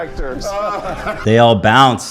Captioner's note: Roosevelt laughs